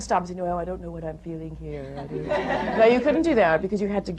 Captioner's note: laughter